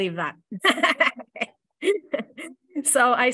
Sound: laughter

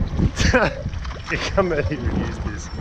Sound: laughing

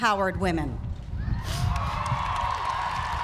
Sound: cheering

